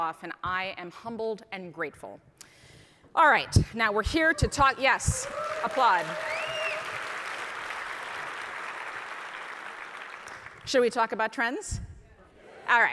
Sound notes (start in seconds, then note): 5.1 audience applauding